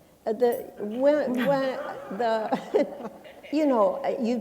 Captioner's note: laughter